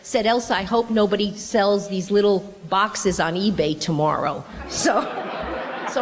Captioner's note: laughter